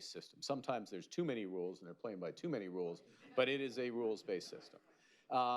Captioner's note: laughter